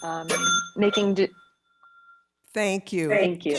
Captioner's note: bell rings